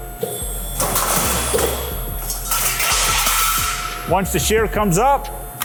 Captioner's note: metal clanking